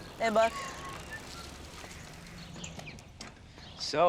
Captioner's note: whistles